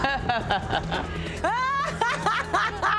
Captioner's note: laughing